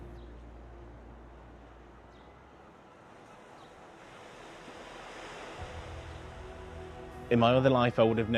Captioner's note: town ambience